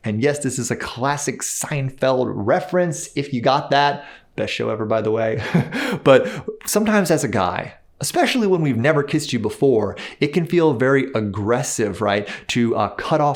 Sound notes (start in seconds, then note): 5.4 laughs